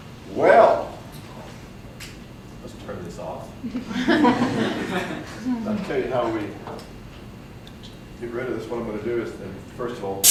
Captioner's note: audience laughs